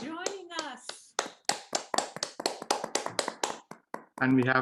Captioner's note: applause